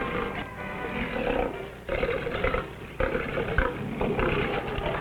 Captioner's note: animals roaring nearby